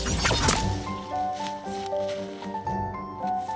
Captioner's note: laser pistol shots; headshot thud